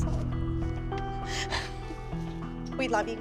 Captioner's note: sniffling